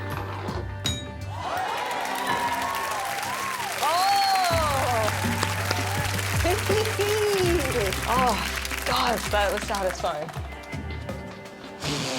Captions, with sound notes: [light ding] [audience cheering] Oh! Oh, god, that was satisfying.